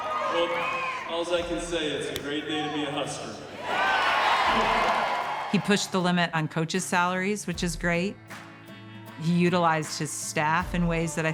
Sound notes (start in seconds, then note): 0.0 spectators clapping; 3.7 spectators cheering